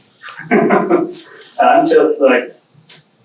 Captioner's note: chuckling